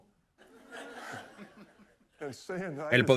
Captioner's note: laughing